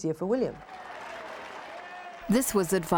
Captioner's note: crowd clapping